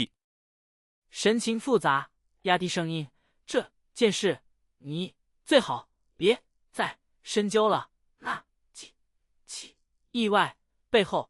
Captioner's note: expression complicated, lowering his voice